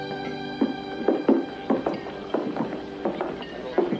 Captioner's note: indistinct chattering